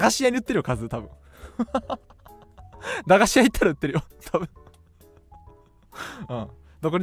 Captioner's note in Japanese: 笑い